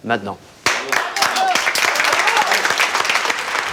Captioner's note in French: aplaudissement